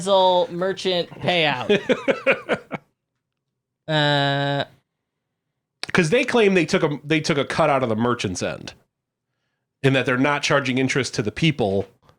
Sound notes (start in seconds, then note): 0.0 laughing